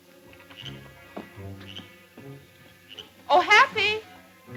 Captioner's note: frogs croak